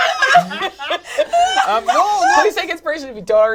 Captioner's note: laugh hysterically